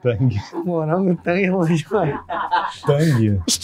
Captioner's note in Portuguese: risadas